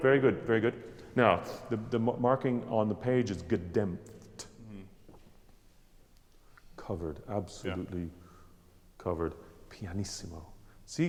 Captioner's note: speaks German